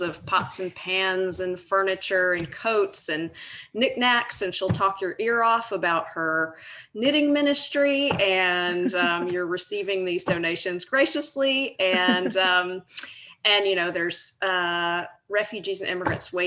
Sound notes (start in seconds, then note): 8.7 laughing